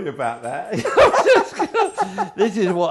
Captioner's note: laughing